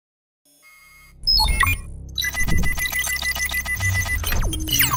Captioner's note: electronics ring